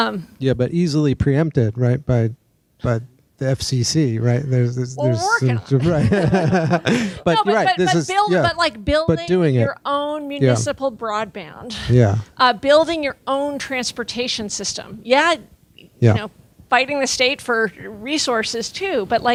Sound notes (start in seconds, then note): 5.0 laughing